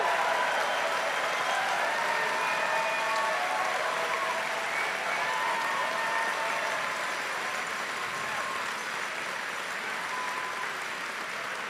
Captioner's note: cheering and Applause